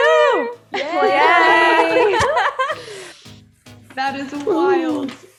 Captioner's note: people cheering and laughing